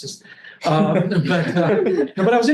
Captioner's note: all laugh